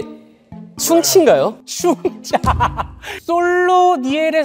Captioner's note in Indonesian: tertawa